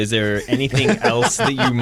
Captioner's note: laughter